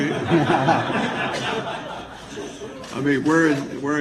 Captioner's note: laughter